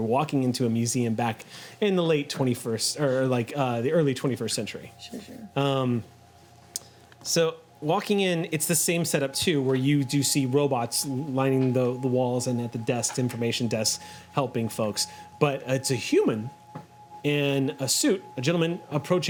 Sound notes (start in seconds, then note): none